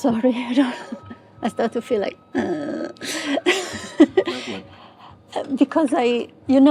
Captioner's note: laughs